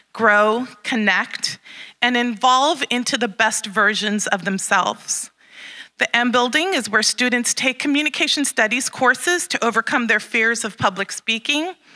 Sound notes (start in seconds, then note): none